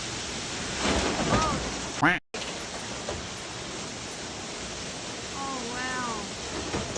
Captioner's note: ceiling crashes; quack